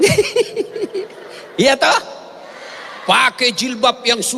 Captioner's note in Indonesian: tertawa